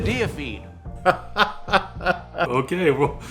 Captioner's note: laughs